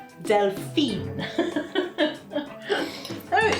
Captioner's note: laffin